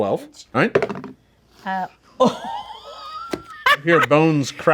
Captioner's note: dice roll; group gasps